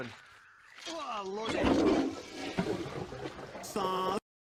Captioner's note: toilet flushing